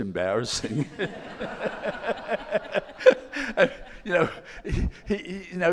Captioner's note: all laughing